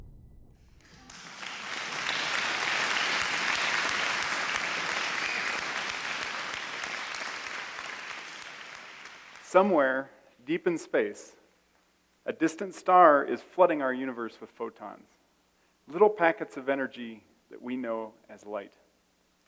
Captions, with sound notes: (applause) - Somewhere, deep in space, a distant star is flooding our universe with photons. Little packets of energy that we know as light.